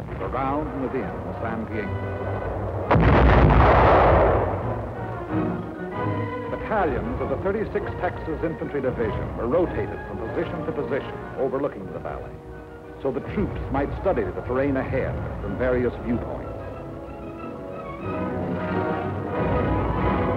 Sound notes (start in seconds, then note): 3.4 explosions